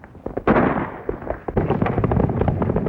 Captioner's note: gunshot